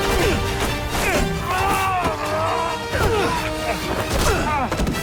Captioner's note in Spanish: Quejido